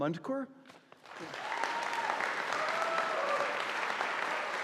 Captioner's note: audience applauding